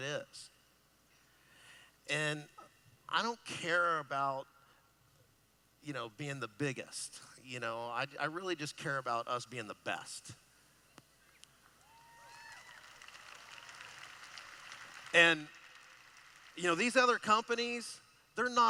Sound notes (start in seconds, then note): 10.4 applause